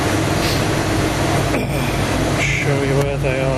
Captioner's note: sniffing, clearing throat